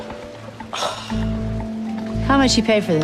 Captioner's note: sighs